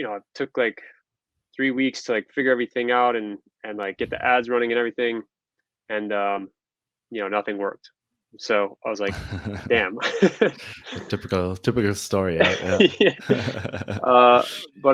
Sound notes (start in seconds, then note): 9.0 laughing; 9.0 laughs; 13.5 laughing